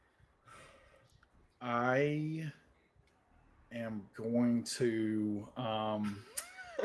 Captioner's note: sighs